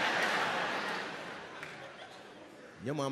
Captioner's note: crowd laughing